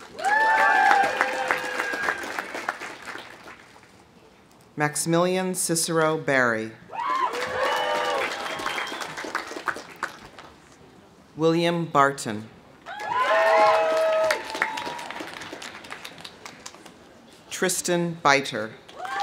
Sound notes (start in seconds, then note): 0.0 audience applauding; 0.0 audience cheering; 6.9 audience cheering; 7.0 audience applauding; 12.9 audience cheering; 12.9 audience applauding; 18.9 audience cheering; 19.0 audience applauding